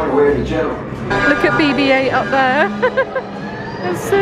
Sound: laughing

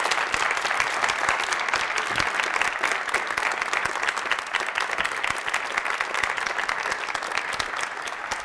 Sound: applause

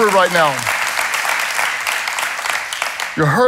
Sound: congregation claps

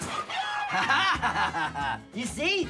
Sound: laughs

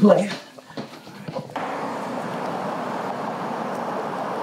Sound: engine humming

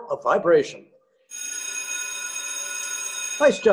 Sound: bell ringing

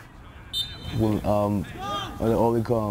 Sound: whistle blows

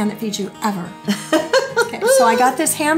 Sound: laughs

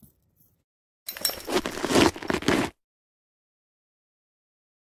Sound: dog collar shakes and boots crunches on gravel

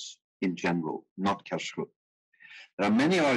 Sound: speaking in foreign language

